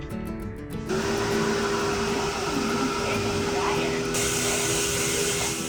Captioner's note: uplifting music; dryer motor roars